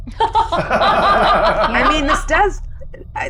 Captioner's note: everyone laughs